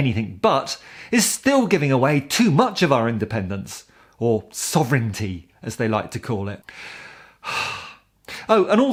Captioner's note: sigh!